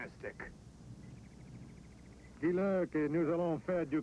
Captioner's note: speaking french